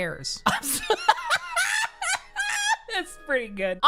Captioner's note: laughing